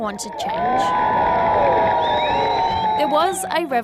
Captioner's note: cheering and whistling